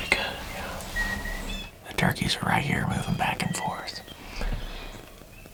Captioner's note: whispering